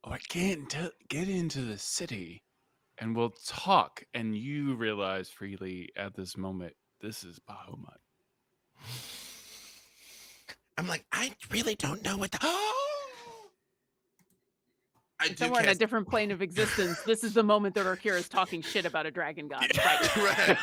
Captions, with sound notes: - Get into the city and we'll talk. And you realize Freely at this moment, this is Bahamut. - I'm like, I really don't know what-- (gasps) - And somehow on a different point of existence. This is the moment that Orkira is talking shit about a dragon god.